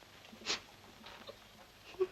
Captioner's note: Agnes whimpering